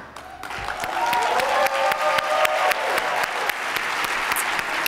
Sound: attendees applauding

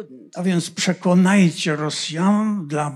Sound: foreign language

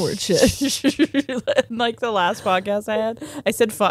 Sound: both laughing

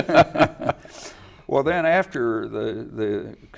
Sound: laugh

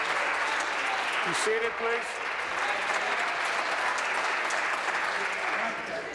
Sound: applause

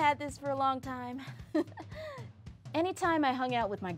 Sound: laughs

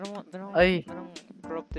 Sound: stuttering

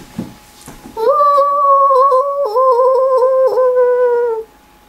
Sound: very ghoulish potato wailing

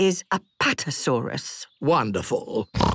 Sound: snorts

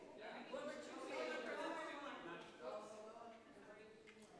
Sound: people chattering

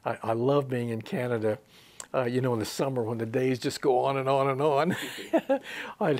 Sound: he laughs

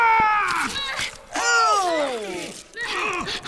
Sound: Joel screams in pain; whimpering; Joel grunts and gasps

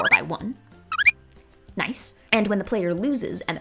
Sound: bird chirping

